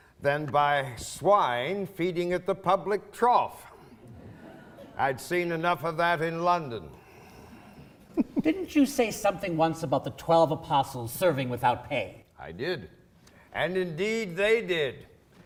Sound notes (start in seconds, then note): 8.0 laughing